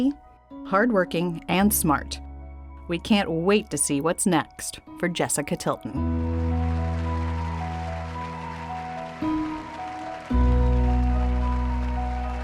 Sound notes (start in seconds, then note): 6.2 audience cheering; 6.7 hopeful music